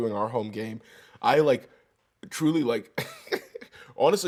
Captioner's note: laughs